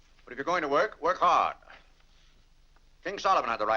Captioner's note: none